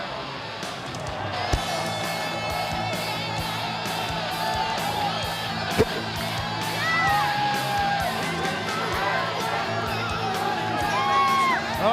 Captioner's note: crowd chatter